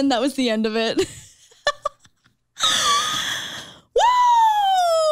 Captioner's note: chuckles